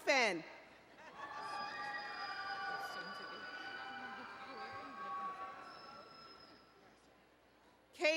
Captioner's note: cheering